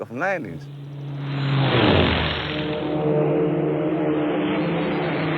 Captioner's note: plane engine roaring